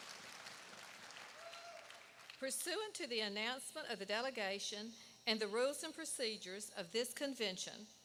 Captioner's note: applause